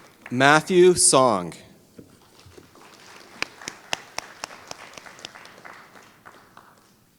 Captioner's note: applause